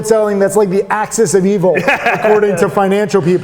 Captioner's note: laughing